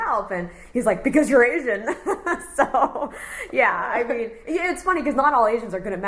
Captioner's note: laughs